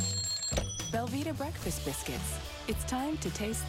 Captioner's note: alarm ringing